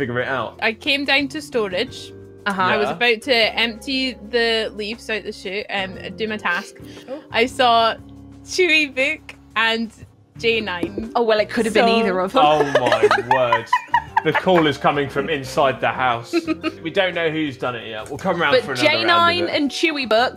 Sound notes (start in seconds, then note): 12.5 laughs